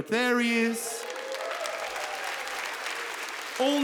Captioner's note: audience applauds